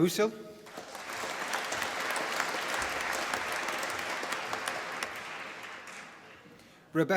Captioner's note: applause